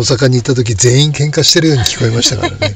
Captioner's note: laughs